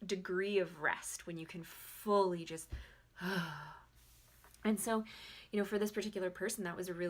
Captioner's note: exhales